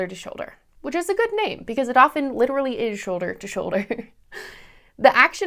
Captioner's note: laughter